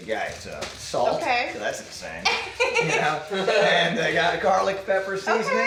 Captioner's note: laughs